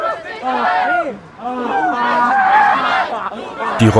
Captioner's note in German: Menge im Hintergrund ruft etwas